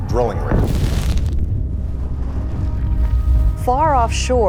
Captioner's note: explosion booming